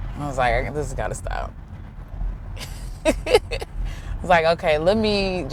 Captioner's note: laughs